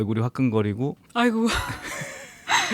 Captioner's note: laughs